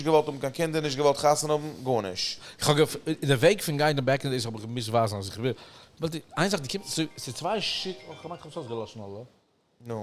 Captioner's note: phone rings